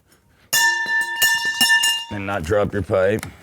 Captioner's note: pipe clanging